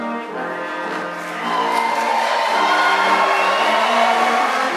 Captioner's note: audience applauds